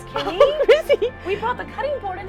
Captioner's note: giggles